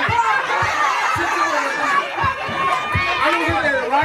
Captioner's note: audience laughing